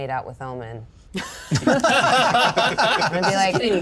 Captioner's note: all laugh